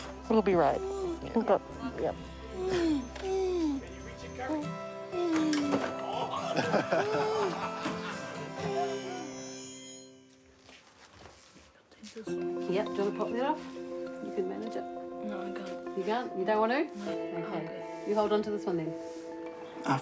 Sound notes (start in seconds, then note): 6.2 laughter